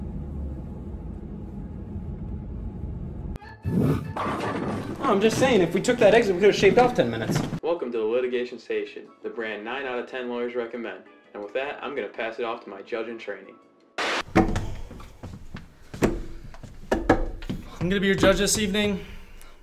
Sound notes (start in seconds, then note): 3.6 dramatic sound effect